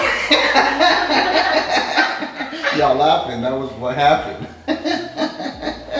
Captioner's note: all laughing; laughing